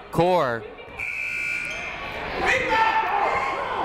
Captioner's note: buzzer ringing; people shouting in the crowd